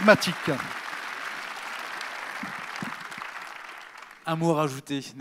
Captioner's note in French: Applaudissements